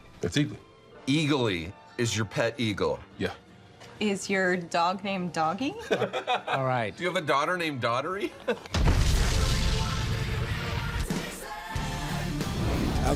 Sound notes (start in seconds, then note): 5.8 laughs